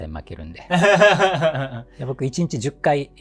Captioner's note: laughing